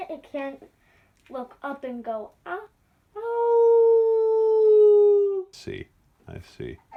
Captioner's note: howl